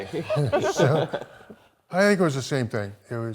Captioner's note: laughing